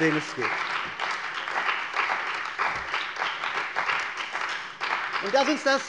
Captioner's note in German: Beifall bei der CDU und dem BÜNDNIS 90/DIE GRÜNEN